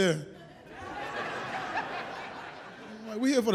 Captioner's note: audience laughs